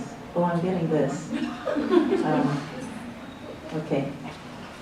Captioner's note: laughs